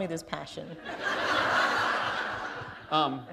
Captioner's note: laughter